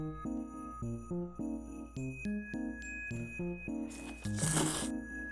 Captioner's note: slurp